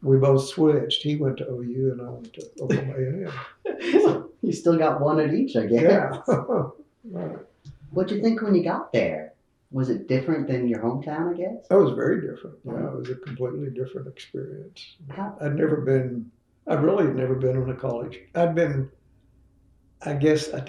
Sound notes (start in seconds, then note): 7.4 laughs